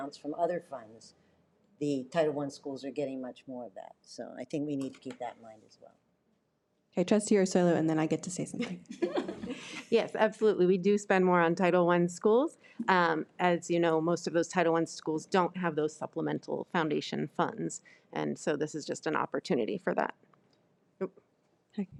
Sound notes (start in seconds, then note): 8.6 participants laughing